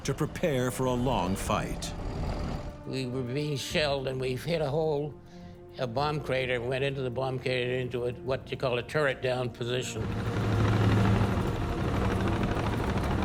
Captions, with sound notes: to prepare for a long fight. - We were being shelled and we've hit a hole, a bomb crater, and went into the bomb crater, into what you call a turret down position. (tank roaring)